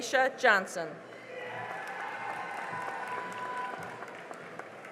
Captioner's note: cheering and applause